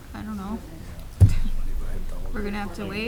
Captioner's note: board members mumbling